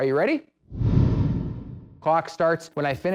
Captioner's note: swoosh sound